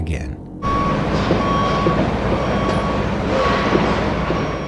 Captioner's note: car beeping and revving